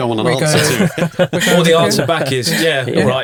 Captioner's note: chuckling